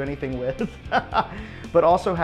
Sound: laughs

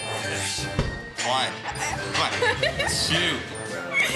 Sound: laughs

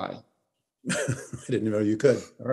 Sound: chuckles

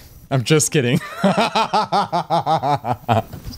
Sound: laughs

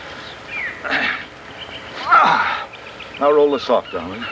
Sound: Anton grunts

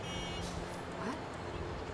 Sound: bus honk

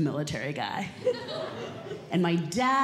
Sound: audience Laughing

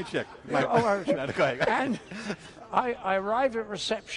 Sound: laughs

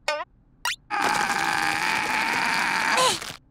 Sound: grunting

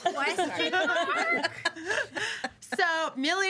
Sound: girls laughing

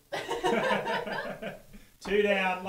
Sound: laughing

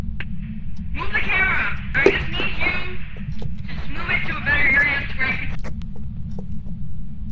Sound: over Radio

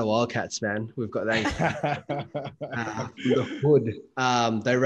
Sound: laughing

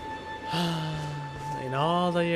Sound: sigh

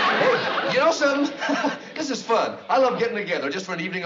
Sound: nervous laugh

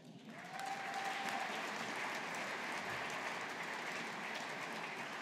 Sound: audience applauding

